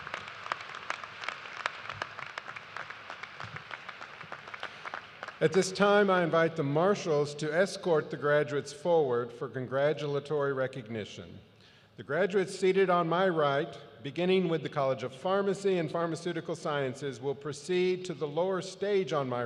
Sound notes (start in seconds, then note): 3.9 applause